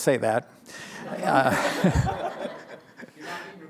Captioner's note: laughter